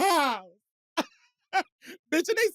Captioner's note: laughs